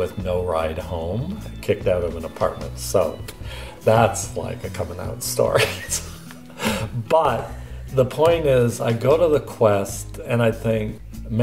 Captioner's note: laughs